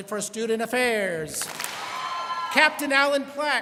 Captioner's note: students clap and cheer